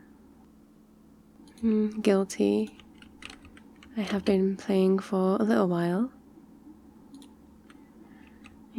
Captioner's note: mouse clicks and typing throughout